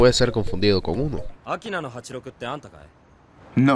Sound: in Japanese

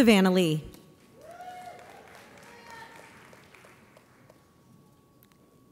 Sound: audience applauds

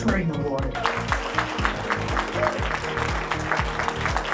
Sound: clapping

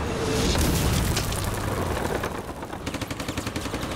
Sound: tanks rumbling; fire crackling; cannon shots exploding; rapid gunfire exploding

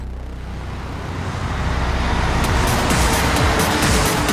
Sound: car engines roaring

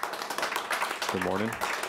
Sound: audience applauding

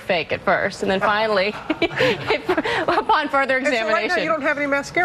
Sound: laughs

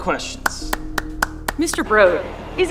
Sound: crowd member claps

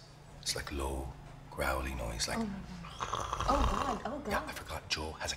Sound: growling

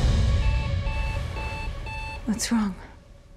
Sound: dramatic music; alarm clock

